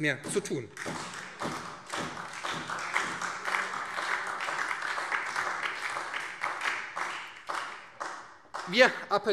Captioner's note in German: Beifall